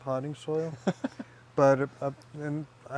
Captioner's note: laughing